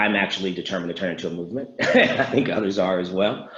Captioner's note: laughs